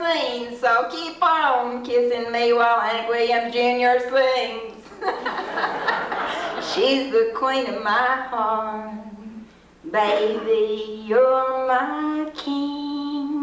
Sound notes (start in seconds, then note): 4.8 laughter